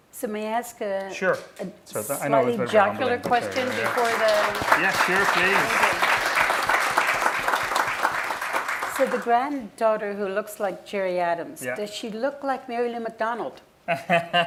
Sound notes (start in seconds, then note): 3.2 applause; 13.9 laughing